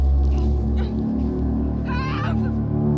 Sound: Brigit grunting

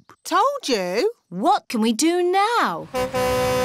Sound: horn honks

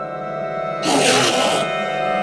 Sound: enderman screech

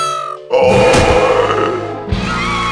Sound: growls; crowd cheering

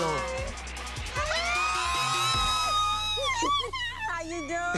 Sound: squealing

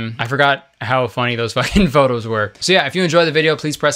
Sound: laughs

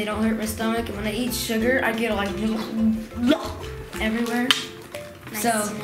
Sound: sick noises

